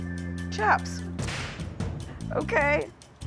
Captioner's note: whip snaps